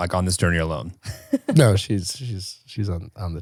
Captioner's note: laughs